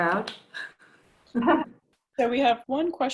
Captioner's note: laughing